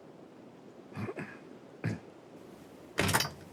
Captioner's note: Lance clearing throat; door clattering